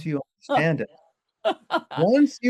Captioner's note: laughs